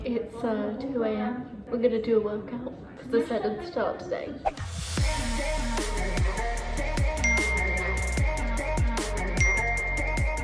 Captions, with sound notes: It's 2:00 AM. We're gonna do a workout, 'cause I said I'd start today. (upbeat pop music) (timer dings)